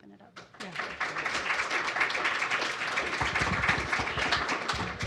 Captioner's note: applause